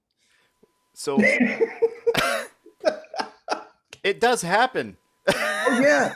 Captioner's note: both laughing